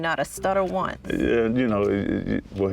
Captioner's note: stutters